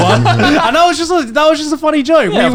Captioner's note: laughing